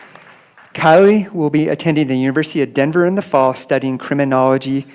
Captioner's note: applause